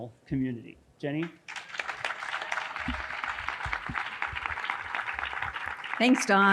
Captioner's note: audience applauding